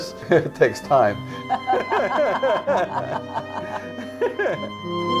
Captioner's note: laughter